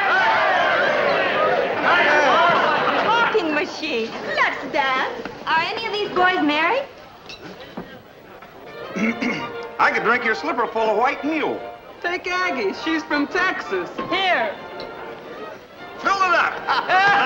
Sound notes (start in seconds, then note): 0.0 men cheering; 8.8 lively dance music; 8.9 man clearing throat